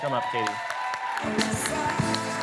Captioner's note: cheering, applause